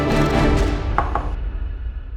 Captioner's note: knocks on door